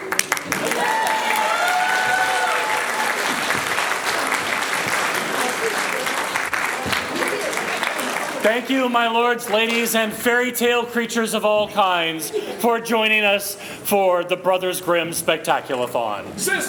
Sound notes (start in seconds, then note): 0.0 applause